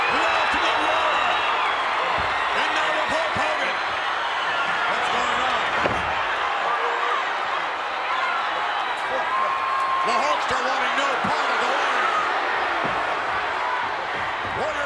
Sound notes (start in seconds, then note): 6.0 foot stomping; 6.8 crowd cheering